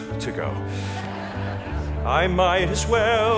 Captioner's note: audience laughing